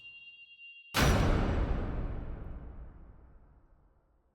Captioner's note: thud echoes